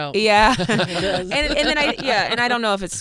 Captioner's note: laughing